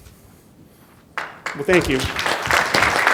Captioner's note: applause